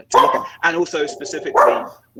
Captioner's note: dog barking